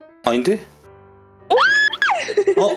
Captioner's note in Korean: 비명